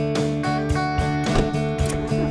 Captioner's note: car door closing; car engine starts